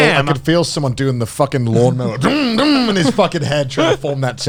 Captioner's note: imitates a lawnmower revving